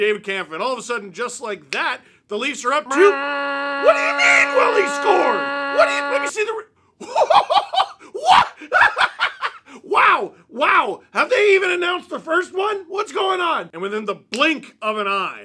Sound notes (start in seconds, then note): 2.8 goal horn; 7.0 laughter